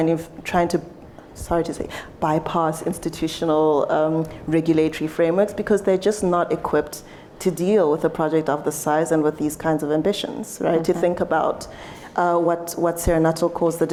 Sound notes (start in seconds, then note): none